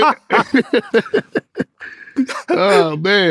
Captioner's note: laughing